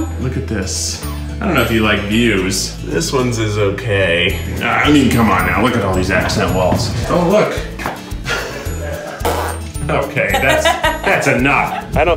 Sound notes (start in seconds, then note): 8.7 blows raspberry; 10.4 giggles